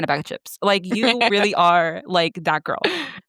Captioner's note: laughs